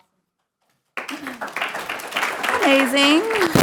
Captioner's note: audience applauding